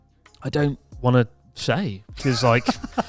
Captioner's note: laughs